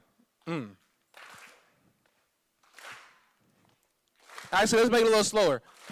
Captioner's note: clapping